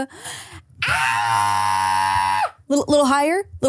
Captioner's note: shrieks